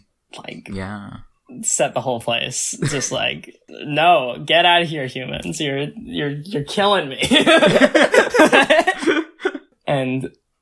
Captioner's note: both laugh